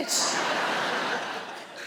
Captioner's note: audience laughing